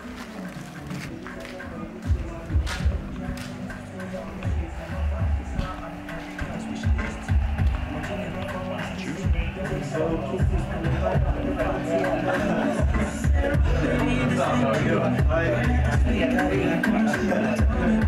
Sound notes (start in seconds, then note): 9.2 chatter; 15.0 easy listening music